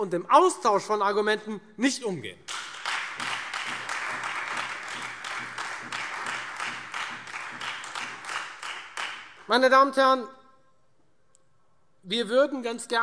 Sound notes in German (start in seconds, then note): 2.4 Beifall Freie Demokraten und vereinzelt SPD